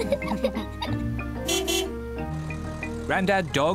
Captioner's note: laughter; horn honks